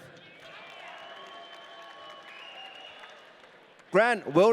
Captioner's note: audience cheering